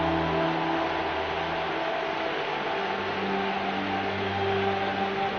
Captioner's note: crowd cheering